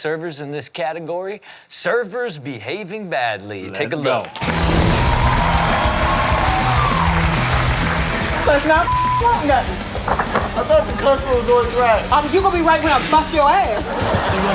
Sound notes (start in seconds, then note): 4.2 audience cheering and applauding; 5.5 rock music; 8.8 beep